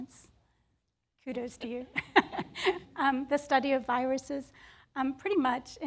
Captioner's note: chuckles